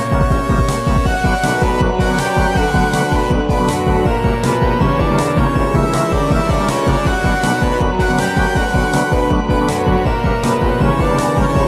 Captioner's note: machines howling